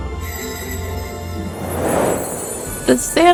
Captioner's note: bells jingling